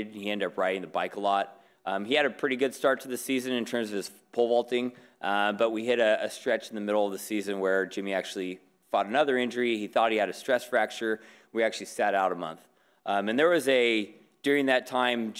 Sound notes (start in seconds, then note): none